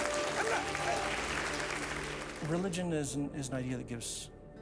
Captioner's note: audience applauds